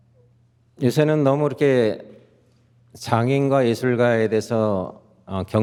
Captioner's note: speaking in Korean